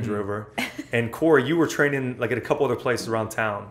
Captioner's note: laughter